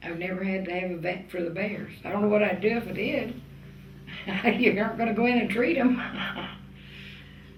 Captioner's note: laughs